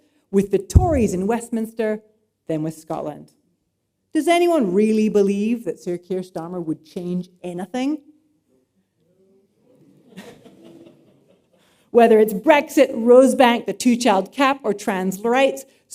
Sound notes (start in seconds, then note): 8.0 laughter